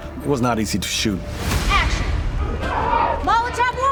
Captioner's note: commotion